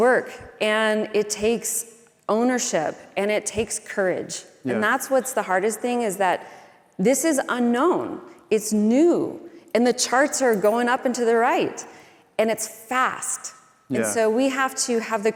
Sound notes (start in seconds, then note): none